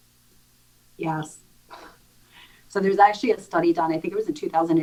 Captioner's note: chuckling